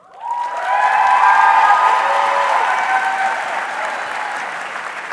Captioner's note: audience cheering